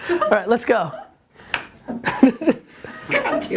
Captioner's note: laughter